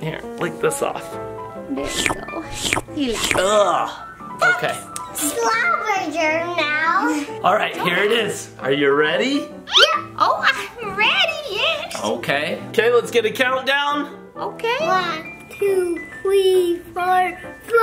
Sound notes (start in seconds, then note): 2.2 licks